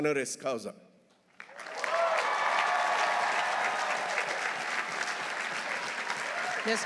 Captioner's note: audience applauding; audience cheering